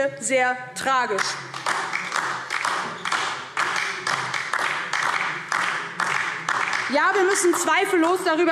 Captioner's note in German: Beifall DIE LINKE